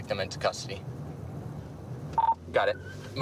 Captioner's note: radio beeps